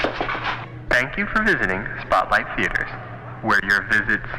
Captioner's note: man On PA